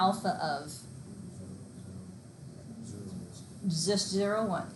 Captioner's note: student mumbling